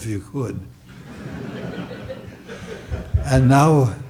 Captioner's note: audience laughs